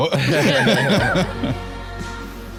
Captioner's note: both laughing